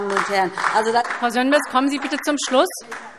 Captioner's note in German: Beifall DIE LINKE